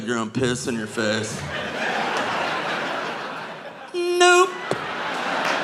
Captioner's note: audience laughing